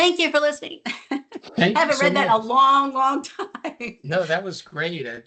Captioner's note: laughs